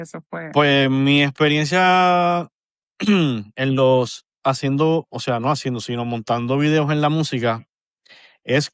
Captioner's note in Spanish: carraspeo